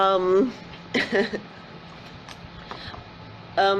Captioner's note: chuckles